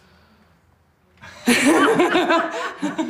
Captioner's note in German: Lautes Lachen